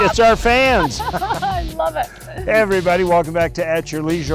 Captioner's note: laughs